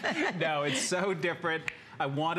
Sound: laughter

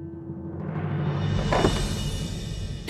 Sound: door opening

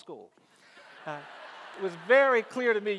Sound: audience laughs

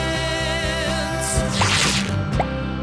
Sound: tearing

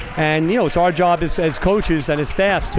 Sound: applauding

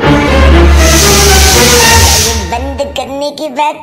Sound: pressure cooker Whistle; serious Music; pressure cooker Whistle

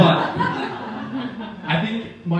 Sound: audience laughing

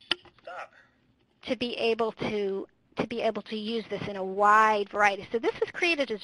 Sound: voiceover

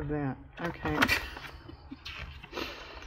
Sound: laughs

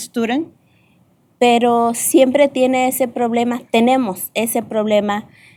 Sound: speaking spanish

